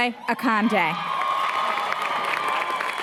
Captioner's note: applause, cheering